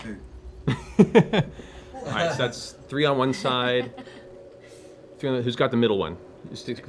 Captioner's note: laughs